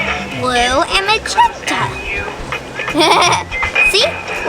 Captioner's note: laughs